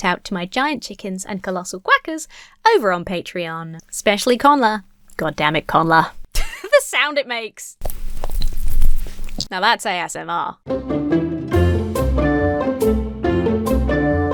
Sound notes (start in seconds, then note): 6.3 chuckles; 7.8 banana peel squelches; 10.6 lighthearted music